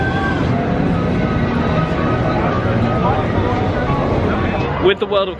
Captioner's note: people chattering